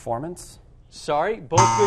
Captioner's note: buzzer